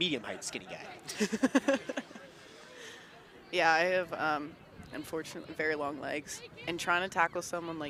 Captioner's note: laughs